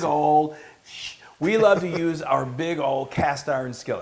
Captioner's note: laugh